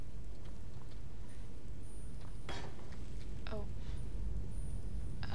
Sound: clank

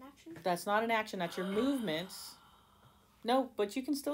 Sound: realization noises

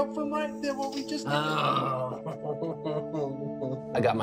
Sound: groans

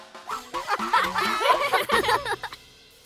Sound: giggling

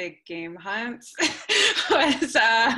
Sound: laughter

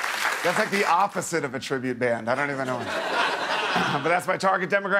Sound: cheers and applause

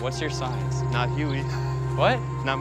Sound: laughs

